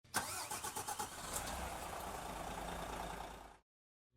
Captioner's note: engine revving